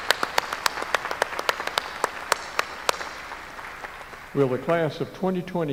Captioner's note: applause